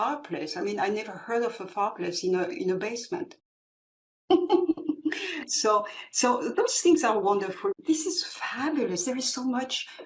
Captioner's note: laugh